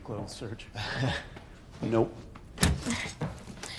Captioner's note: chuckling; gasping